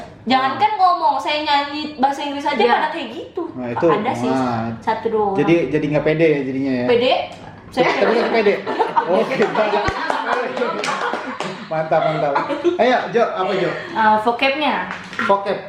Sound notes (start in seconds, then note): 7.9 laugh spreads in the room